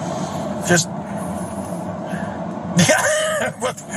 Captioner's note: laugh